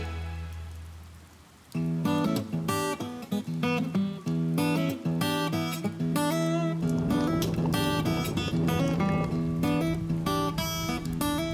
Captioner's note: rain falling